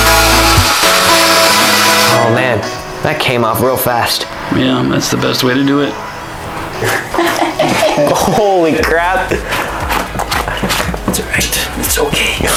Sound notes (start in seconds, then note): 6.8 laughing